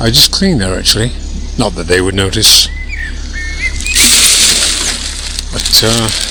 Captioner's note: bird singing